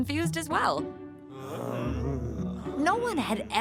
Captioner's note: grumbling